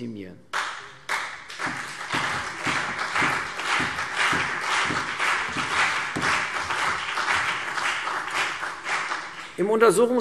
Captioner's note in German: Beifall CDU und BÜNDNIS 90/DIE GRÜNEN